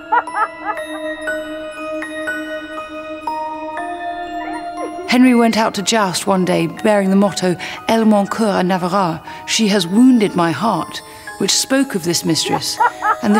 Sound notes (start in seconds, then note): 0.0 woman laughs; 8.1 speaks in foreign language